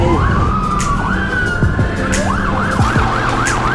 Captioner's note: police siren